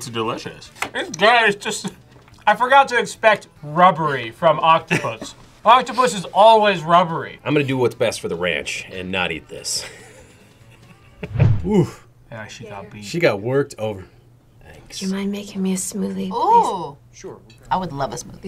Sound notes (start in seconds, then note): 2.3 laughs; 9.8 laughs